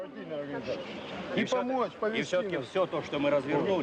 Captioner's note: speaking Russian